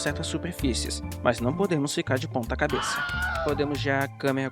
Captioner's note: scream